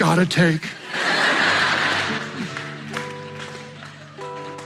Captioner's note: crowd laughing; upbeat music